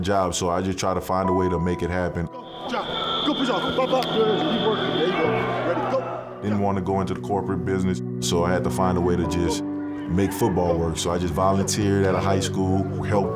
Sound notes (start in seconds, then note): 2.4 players cheering